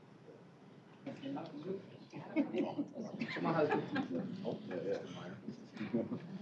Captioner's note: indistinct chatter